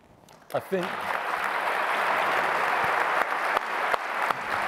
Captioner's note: applause